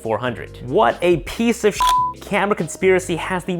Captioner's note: beep